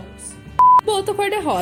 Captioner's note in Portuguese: Bip